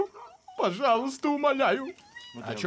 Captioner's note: whpering